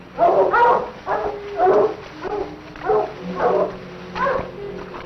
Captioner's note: barking